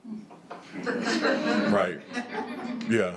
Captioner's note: attendees laughing